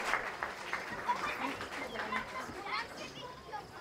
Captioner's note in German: Kinderstimmen